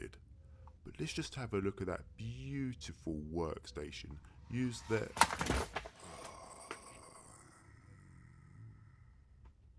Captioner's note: grunts